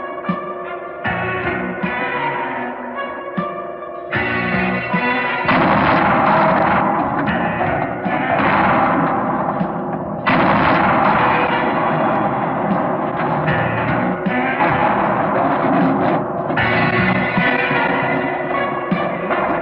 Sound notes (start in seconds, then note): 5.7 banging; 11.3 tense music